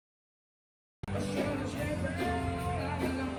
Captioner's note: upbeat music; people chattering